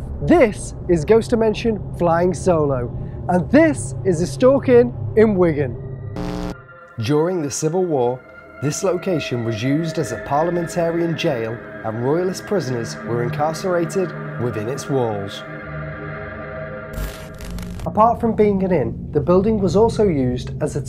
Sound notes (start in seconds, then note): 16.9 static crackling